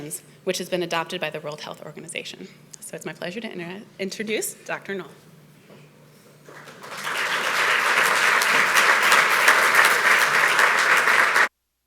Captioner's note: audience clapping